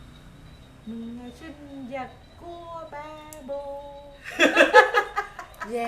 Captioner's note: laugh